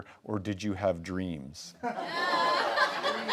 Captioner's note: laughing